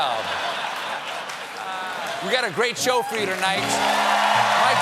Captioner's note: laughter